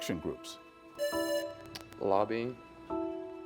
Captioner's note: buzzer buzzing